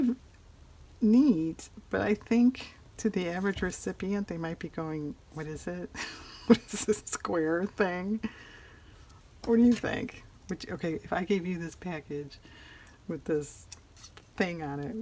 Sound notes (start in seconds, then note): 8.6 laughs